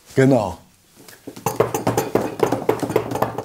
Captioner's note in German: Beifallklopfen auf dem Tisch